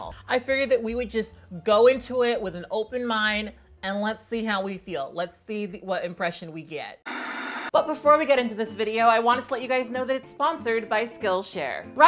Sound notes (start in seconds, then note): 7.0 static buzzing